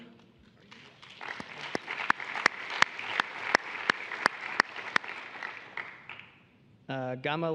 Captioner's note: applause